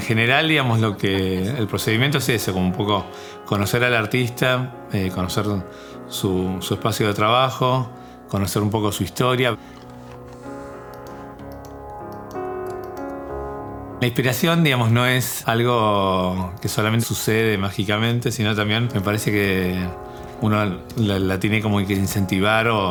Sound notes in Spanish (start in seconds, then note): 9.6 música de piano; 9.6 sonido del mousse